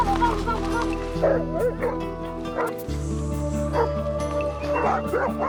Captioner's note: speaking in a foreign language; dogs barking; whistling